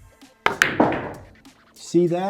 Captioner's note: pool ball hitting